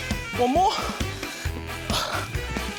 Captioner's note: sighs